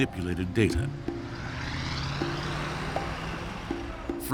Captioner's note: bus engine rumbles